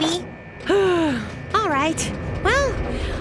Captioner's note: sighs